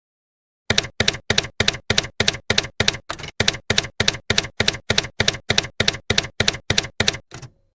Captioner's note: typewriter key clacking